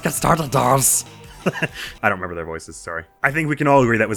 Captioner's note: chuckles